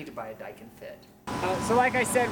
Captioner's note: AC buzzes